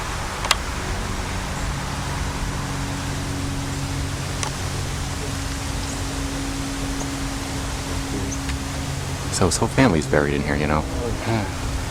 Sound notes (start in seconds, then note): 0.4 click; 5.8 airplane Overhead